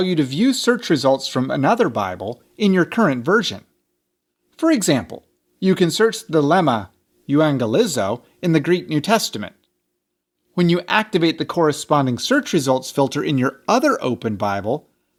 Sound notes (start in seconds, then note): 6.7 speaks Greek